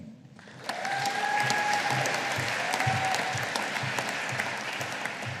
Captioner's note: audience applauding